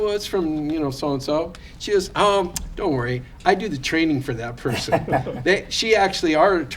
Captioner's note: laughter